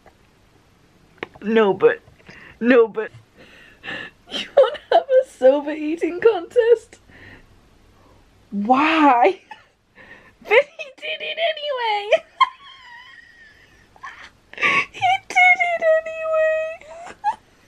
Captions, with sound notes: No but! No but, "you wanna have a soba eating contest?" "Why?" But he did it anyway! [absolutely wheezing]